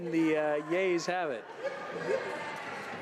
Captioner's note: laughter